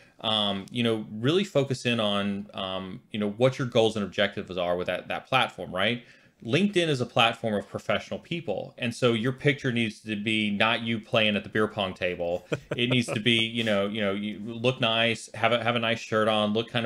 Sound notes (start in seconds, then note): 12.4 laughing